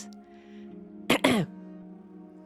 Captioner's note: clears her throat